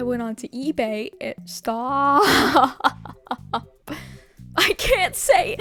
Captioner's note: sob laugh